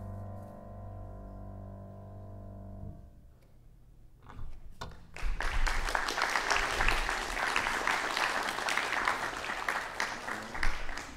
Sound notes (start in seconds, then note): 5.1 audience applauding